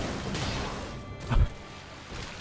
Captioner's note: puffs